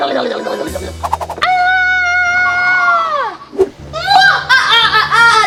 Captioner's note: Owlette screaming; evil laughter